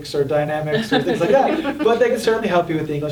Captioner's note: group laughing